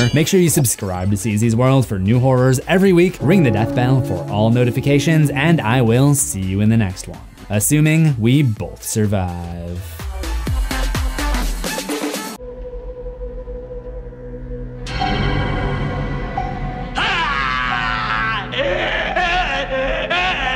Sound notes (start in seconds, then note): 10.4 upbeat music; 12.4 eerie music; 16.9 screams